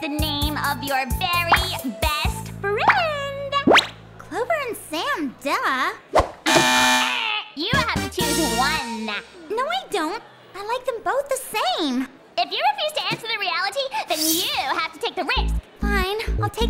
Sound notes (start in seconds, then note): 6.4 wrong answer buzzer